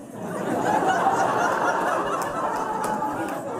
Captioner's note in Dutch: gelach